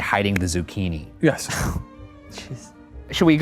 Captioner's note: sighs